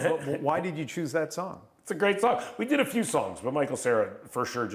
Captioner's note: laughter